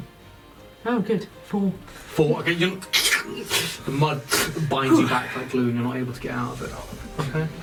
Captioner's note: struggling sticky noises